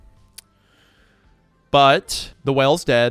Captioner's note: clicks tongue